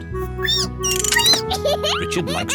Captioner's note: squeaks